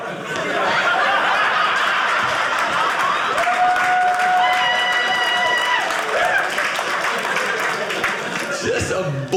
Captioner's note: audience laughing